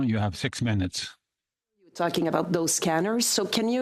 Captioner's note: speaking French